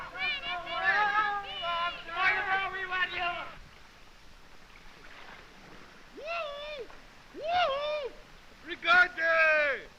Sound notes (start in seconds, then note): 7.3 whooping; 8.5 speaking french